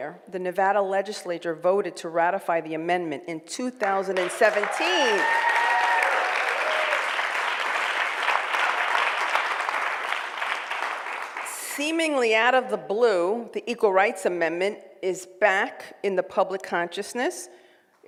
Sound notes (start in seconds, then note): 4.1 cheering and applause